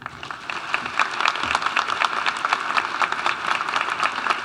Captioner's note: audience applauding